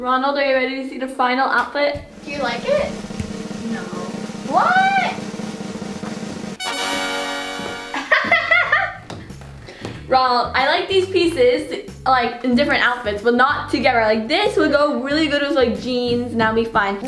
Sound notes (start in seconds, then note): 3.1 drumroll; 5.6 drumroll; 6.7 trumpeting; 8.0 laughing